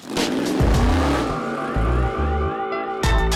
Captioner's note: engine rumbling